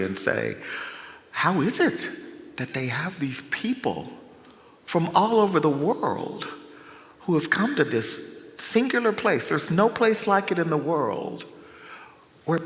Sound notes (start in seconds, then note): none